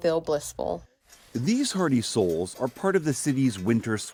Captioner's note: voice-over